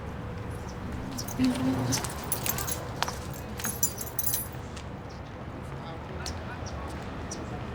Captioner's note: feet shuffling; keys jangling